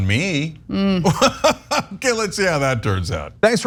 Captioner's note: laugh